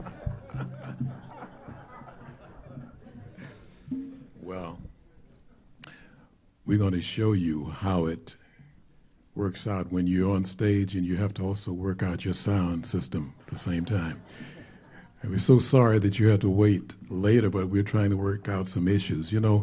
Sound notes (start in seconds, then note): 4.1 audience laughter